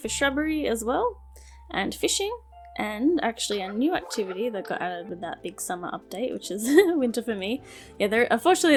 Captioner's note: laughs